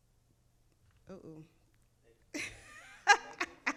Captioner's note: laughing